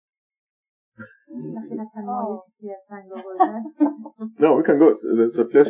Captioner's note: speaking Farsi